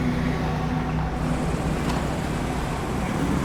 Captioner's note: roar of traffic